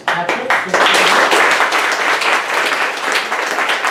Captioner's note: applause